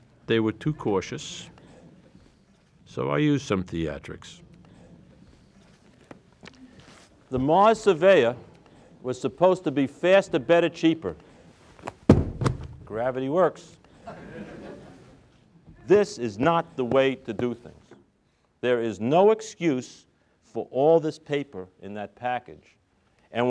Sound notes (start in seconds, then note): 11.7 drops books; 14.0 crowd laughs